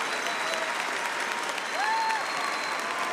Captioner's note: cheering and applause